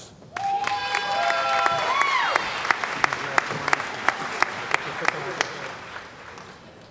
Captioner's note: cheering & Applause